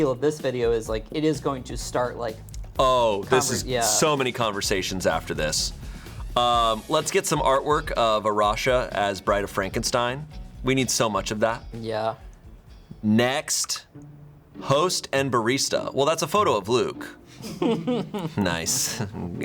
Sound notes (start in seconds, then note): 13.6 button clicks; 17.6 crew members laughing